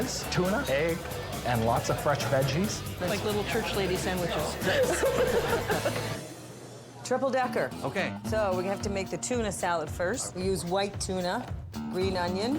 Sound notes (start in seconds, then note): 4.3 laughs